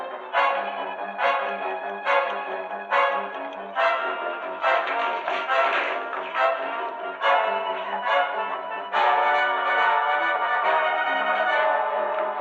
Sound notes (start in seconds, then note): 1.2 ticking